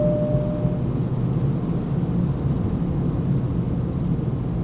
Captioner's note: elevator dings; clicking sounds